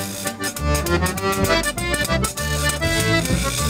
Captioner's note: none